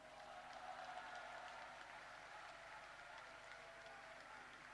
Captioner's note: applause